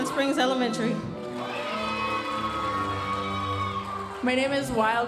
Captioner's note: audience cheering and applauding